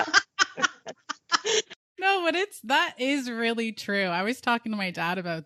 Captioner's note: both laughing